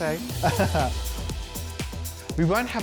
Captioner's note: chuckles